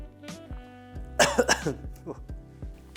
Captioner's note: coughing